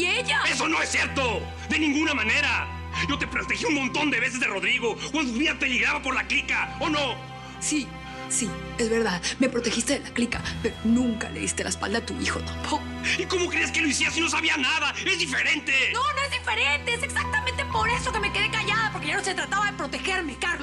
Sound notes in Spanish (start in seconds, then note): none